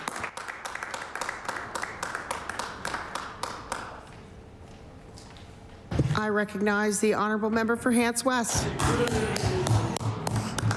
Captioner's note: applause